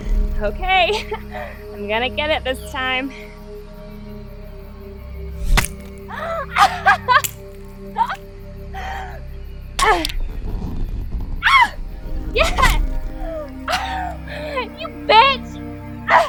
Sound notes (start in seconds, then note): 5.4 ax chops; 5.4 blood splatters; 6.1 Donna laughing